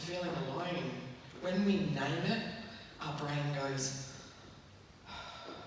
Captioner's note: exhales deeply